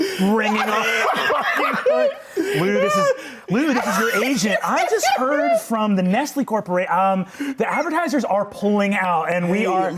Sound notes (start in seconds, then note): 3.5 continues laughing